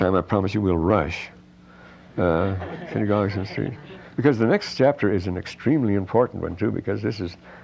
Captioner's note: laughter